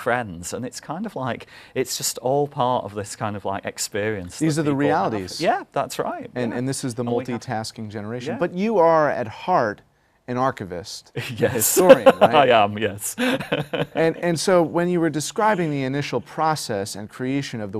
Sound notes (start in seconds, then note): 13.1 laughter